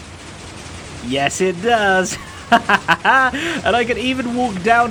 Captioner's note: chuckles